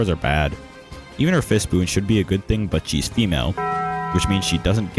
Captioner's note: taco bell bong